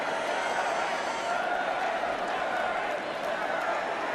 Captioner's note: cheering and applause